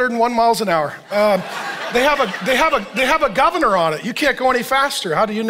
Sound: congregation laughing

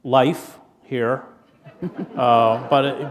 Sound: laughter

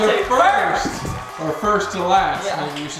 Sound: cheering

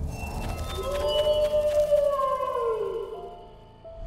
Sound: wolf howls

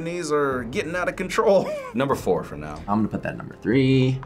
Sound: laughs

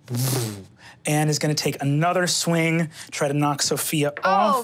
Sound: mimics motor humming

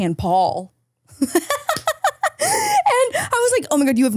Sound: both laughing

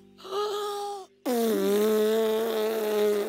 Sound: inhale

